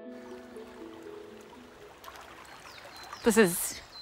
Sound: water bubbling

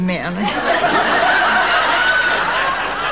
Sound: audience laughing

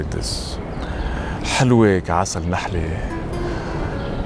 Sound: in Arabic

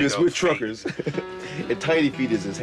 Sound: laughter

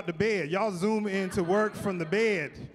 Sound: chuckling

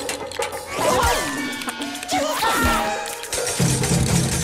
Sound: gasps

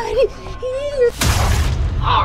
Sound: squoosh

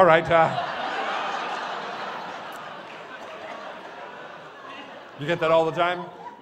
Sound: laughters

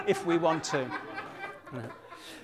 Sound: laughter

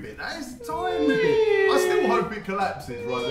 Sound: making sad deflating sounds

